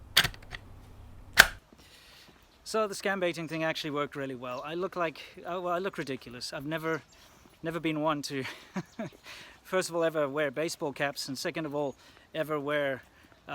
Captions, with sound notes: So the scam baiting thing actually worked really well I look like, - well, I look ridiculous, I've never never been one to (chuckle) first of all ever wear baseball caps and second of all ever wear...